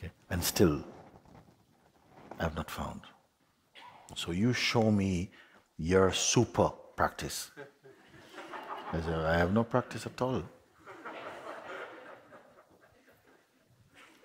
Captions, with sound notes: Okay? And still, I've not found. So, you show me, your super-practice.' [Laughter] I say, I have no practice, at all. [Laughter continues]